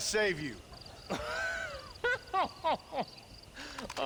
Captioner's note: laughs